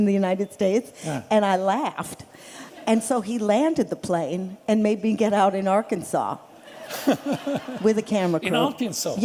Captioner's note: laughter